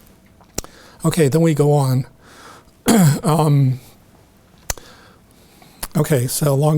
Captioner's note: clears throat